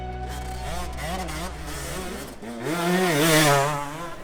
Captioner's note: bright music; bike engine revs